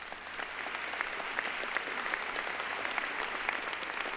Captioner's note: applause